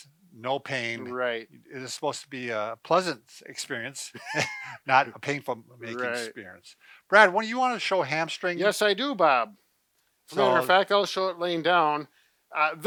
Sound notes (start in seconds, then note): 4.1 both laugh